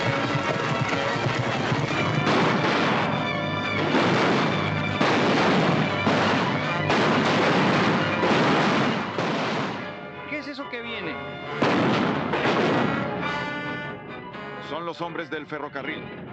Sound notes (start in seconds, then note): 0.0 tense music - horses galloping; 2.6 gunshots